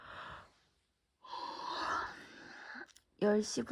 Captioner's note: while yawning